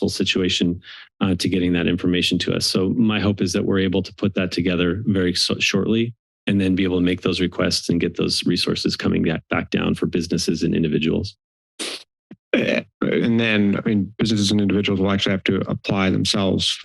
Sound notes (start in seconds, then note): 11.8 sniffs